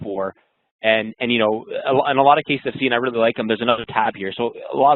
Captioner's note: voice muffled